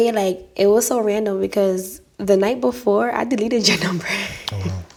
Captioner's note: laughs